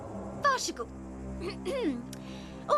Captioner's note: clears throat